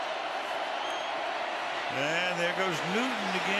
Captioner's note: cheering